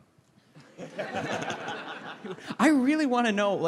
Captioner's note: laughter